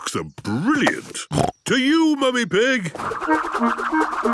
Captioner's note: snorting